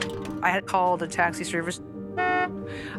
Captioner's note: car honks